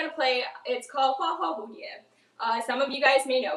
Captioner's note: speaks in foreign language